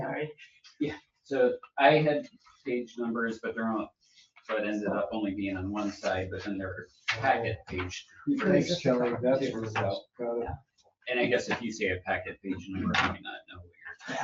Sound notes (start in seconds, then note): 7.9 overlapping chatter